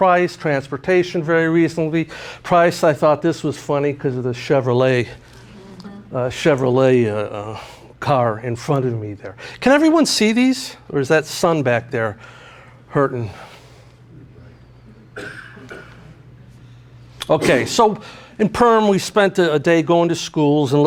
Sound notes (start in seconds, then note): 15.0 coughing